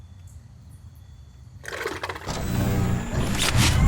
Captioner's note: growling